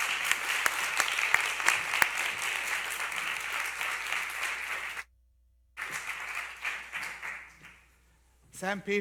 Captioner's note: applause